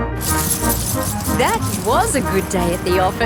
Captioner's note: coins jingling